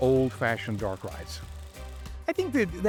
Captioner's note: film camera whirring